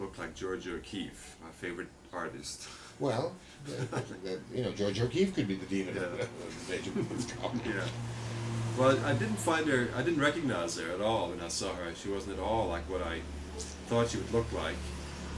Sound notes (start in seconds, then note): 5.6 laughs